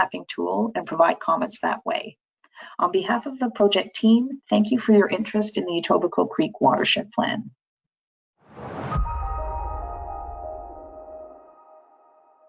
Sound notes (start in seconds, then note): 8.5 air whooshing; 8.8 soft music